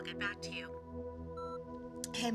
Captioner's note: voicemail beeps